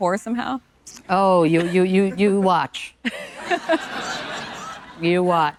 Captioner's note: audience laughing